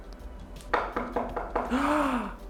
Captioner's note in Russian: стук в дверь